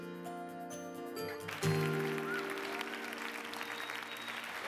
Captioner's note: applause